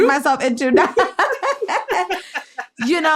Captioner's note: laughs